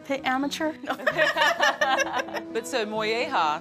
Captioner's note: laughing